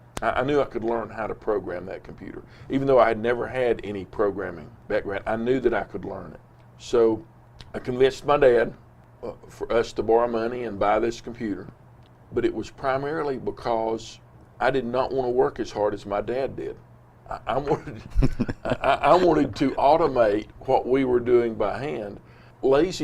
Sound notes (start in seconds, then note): 17.6 both laughs